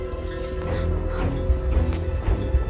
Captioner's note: Sobbing